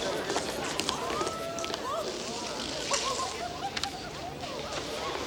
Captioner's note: townsfolk murmur and giggle